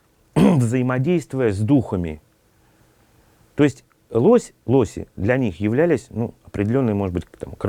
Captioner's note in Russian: откашливается